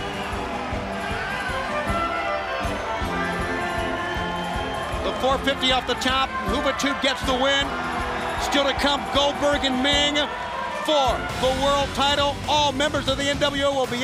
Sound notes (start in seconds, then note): 2.1 crowds cheering